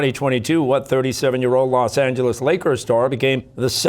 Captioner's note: none